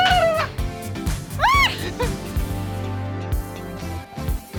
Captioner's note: screams